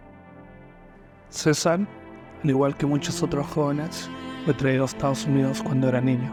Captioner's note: narrator speaking in foreign language